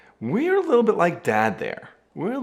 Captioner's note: none